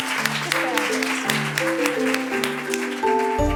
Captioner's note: applause